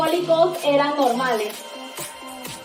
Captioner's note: foreign language 00:39:25